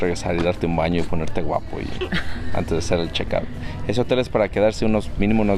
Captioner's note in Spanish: risas